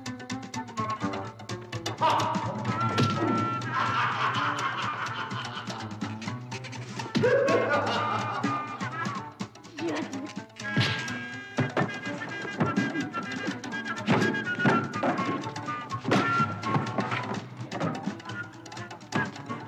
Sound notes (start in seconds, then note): 3.5 laughs; 7.1 uncle laughs